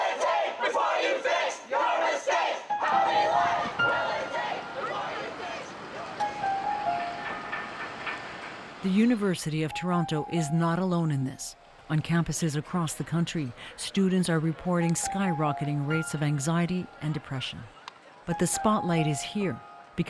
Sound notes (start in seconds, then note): 2.2 chants